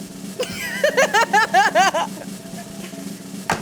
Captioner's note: laughing